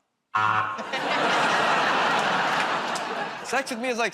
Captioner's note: laughter, buzzer